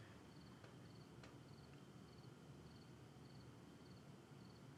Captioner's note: insects chirping